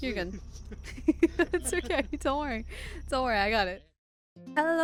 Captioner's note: laughs; laughter